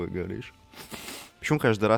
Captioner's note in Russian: шмыг